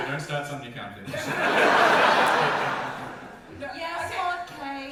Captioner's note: audience laugher